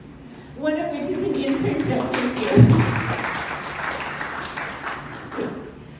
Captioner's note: applause